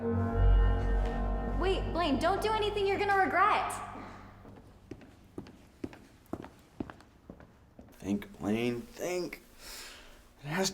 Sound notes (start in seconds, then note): 0.0 tense music; 6.3 footsteps tapping